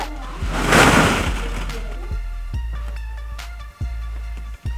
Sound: ball pit rustling

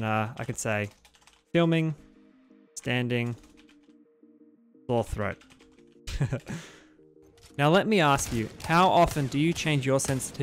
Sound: chuckles

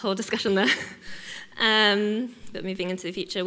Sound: chuckles

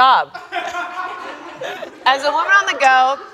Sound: crewmember laughs

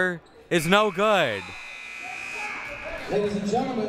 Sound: buzzer sounding

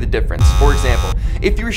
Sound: clock buzzes

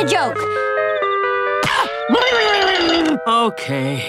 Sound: yelling

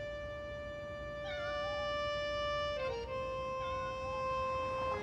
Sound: cat meows

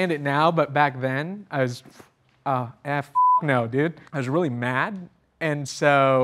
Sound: beep

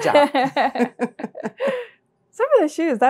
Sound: both laugh

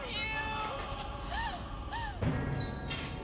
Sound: Willie sobbing

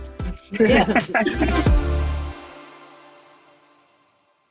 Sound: giggling loudly

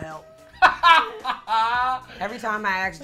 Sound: laughs

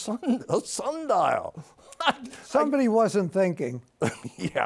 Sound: laughs

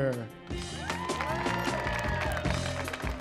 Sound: applause

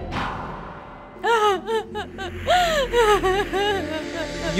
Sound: crying

